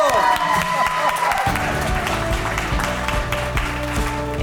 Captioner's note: crowd clapping and cheering